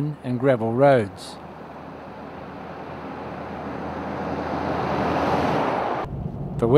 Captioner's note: vehicle noise